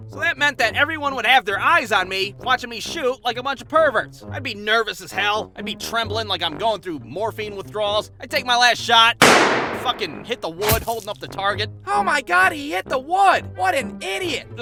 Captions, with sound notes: So that meant that everyone would have their eyes on me watching me shoot like a bunch of perverts I'd be nervous as hell I'd be trembling like I'm going through morphine withdrawals I'd take my last shot *shoots* fucking hit the wood holding up the target "Oh my God, he hit the wood! What an idiot!"